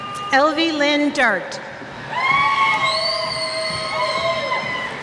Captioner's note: cheers